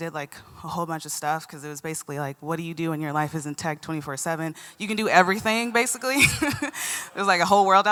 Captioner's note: laughter